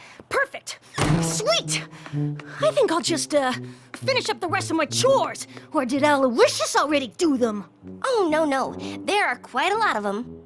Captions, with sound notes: Perfect! [ Door slams ] sweet! I think I'll just, uh, finish up the rest of my chores. Or did Aloysius already do them? Oh, no, no. There are quite a lot of them.